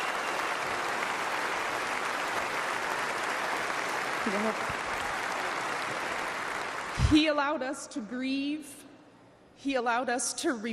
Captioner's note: applause